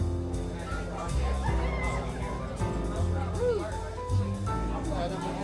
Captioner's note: people chattering in distance